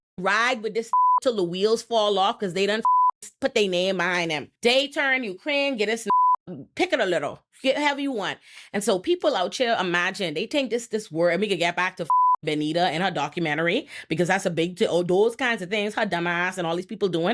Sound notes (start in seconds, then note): 0.9 beep; 2.8 beep; 6.0 beep; 12.0 beep